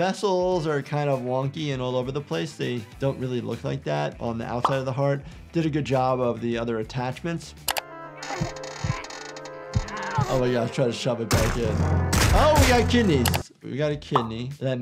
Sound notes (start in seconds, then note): 7.6 mouse clicks; 8.2 spring creaks; 8.3 Petunia grunts; 9.7 springs bouncing; 13.2 mouse clicks